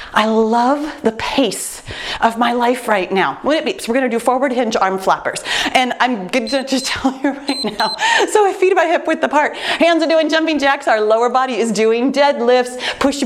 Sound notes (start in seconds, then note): 6.4 timer beeps